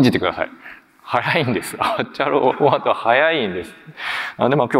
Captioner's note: chuckles